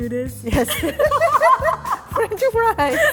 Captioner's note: laughter